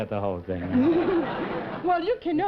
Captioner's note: laughter